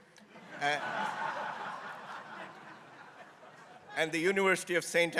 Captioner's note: crowd laughing